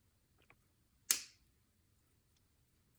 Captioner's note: snap